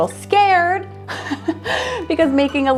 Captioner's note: laughs